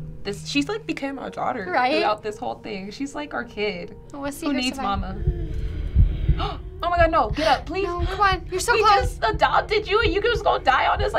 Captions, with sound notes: - She's become our daughter throughout this whole thing. She's like our kid. Who needs mama? (gasping) Oh my god, no. Get up. - No, come on. You're so close! - We just adopted you and you're just gonna die on us?